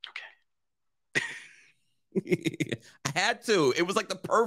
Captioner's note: laughs